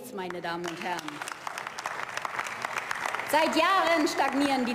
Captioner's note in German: Beifall